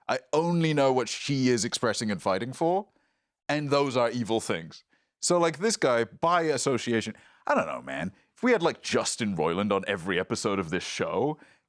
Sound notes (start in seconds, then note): none